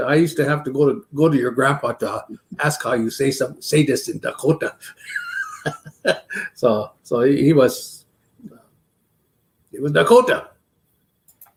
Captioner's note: laughs